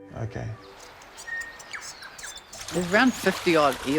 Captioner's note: birds chirping